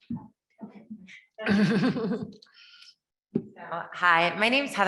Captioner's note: members giggling